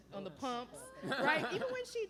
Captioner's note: laughter